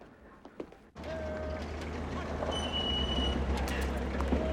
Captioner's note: officer Shouting Commands